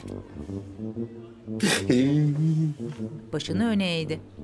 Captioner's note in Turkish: Ağlama sesi